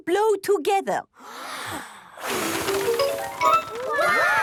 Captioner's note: big breath and blow